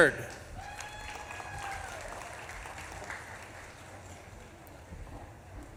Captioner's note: audience claps and cheers